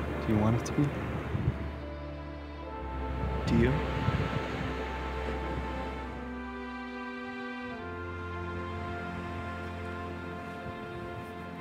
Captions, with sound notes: - Do you want it to be? - Do you? (soft music) (waves crashing)